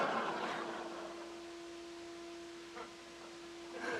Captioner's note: crowd laughs